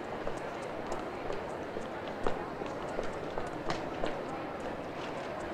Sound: people chattering

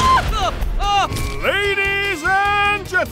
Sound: surprised shouts

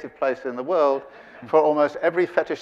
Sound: audience laughing

